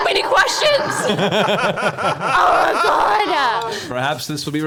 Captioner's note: laugh